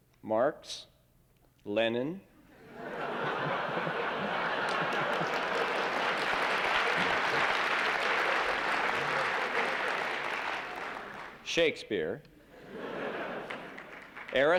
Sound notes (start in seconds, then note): 2.4 laughter; 5.2 applause; 12.5 laughter